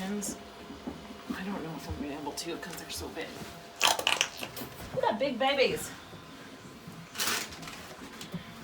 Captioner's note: jelly sounds